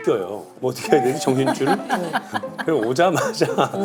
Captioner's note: cannot do anything but laugh